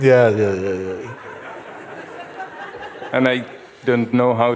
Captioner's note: laughter